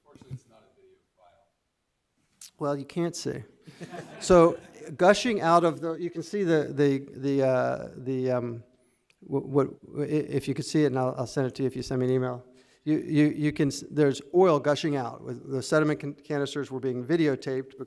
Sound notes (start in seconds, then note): 3.7 laughing